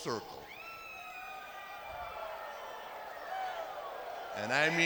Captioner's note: audience cheers